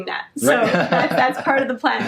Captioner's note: laughs